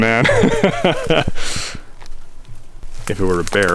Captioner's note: chuckles